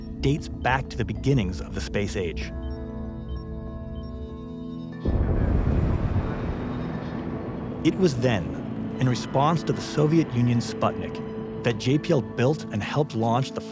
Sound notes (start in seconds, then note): 3.3 pondering music; 5.1 rocket engines firing